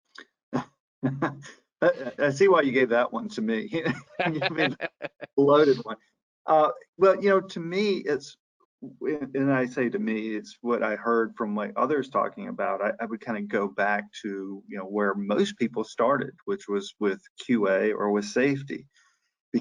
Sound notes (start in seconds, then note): 1.8 chuckles; 5.6 laughs